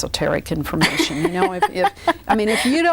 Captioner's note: laughs